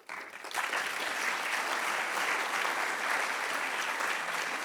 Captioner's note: audience clapping